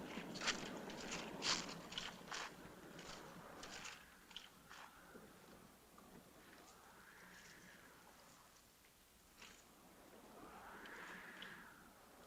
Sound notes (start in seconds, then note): none